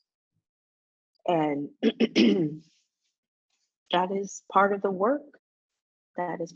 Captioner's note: coughs